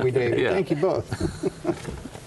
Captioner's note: laughter